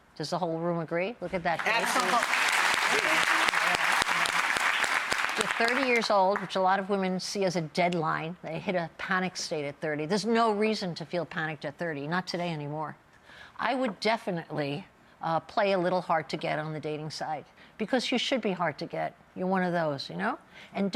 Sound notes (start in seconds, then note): 1.5 audience applause